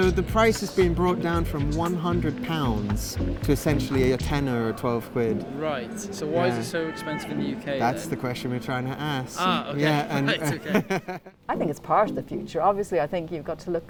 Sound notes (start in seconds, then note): 9.4 laughs